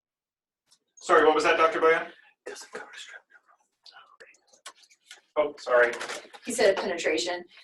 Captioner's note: whispers